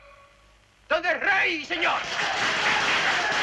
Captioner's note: applause